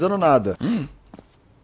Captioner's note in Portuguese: suspiro